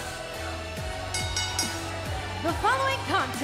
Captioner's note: bell